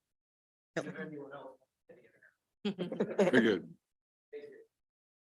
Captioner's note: faintly speaking